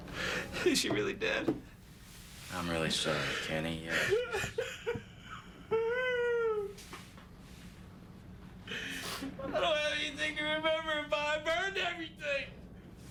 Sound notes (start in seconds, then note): 3.1 sobs